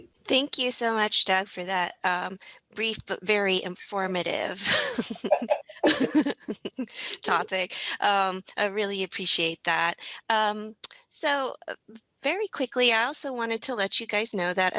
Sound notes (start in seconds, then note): 4.6 laughter